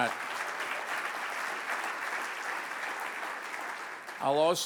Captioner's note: audience applauds